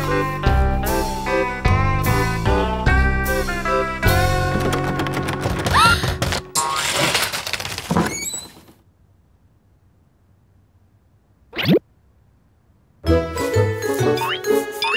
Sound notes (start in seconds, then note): 5.6 door rattling; 5.7 gasping